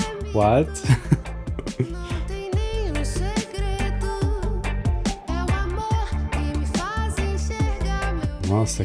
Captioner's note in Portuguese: risadas